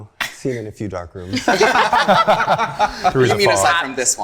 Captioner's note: group laughing